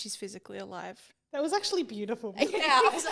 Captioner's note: everyone laughing